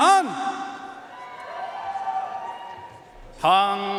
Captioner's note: audience cheering and applauding